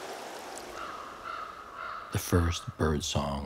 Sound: wind blowing; bird cawing

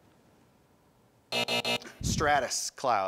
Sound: time buzzer

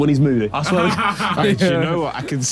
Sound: Vik and Tobi laughing

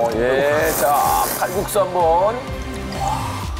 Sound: slurp

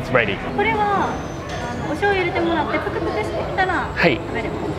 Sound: staff speaks in japanese

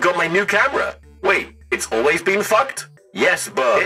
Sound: robot voice

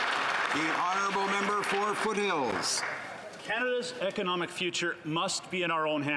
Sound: applause

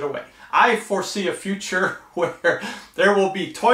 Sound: laughing

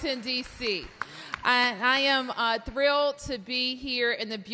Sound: applause

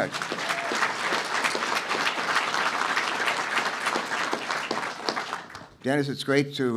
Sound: applause

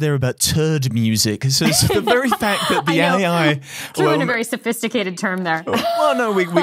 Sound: laughing

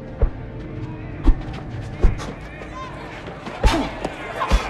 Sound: crowd shouting and cheering; man panting and grunting

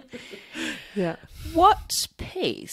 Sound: laughs

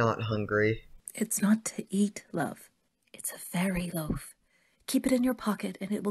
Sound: drops voice

